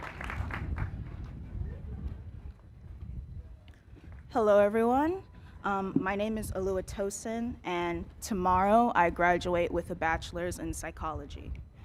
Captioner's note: cheers and applause